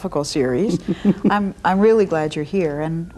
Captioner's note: laughs